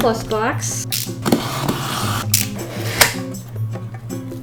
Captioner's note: stanley knife cutting box